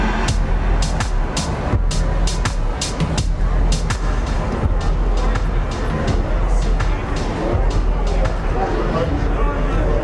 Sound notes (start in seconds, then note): 0.3 upbeat music; 5.7 chatter